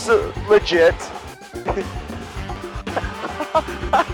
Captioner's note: laughs